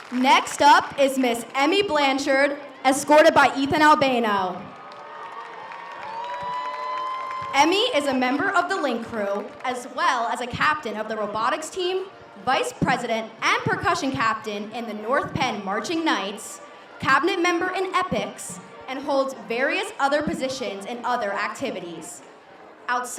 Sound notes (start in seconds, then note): 4.7 audience cheers